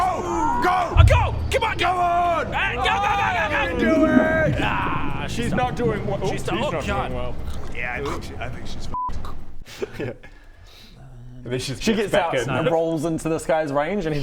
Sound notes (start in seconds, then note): 0.0 aaahhhhhahh!; 5.3 gurgling